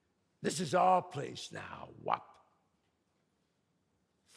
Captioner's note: none